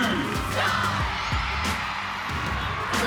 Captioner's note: cheering